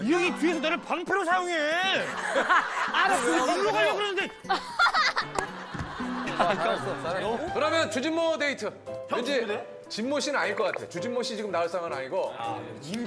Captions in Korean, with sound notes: 이 형이 뒤에서 나를 방패로 사용해! (동생들 웃음 빵) 그러면 주진모 데이트! 진모씨는 아닐 거 같아 주진모씨 지금 나올 상황은 아니고